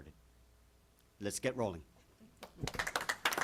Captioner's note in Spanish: aplausos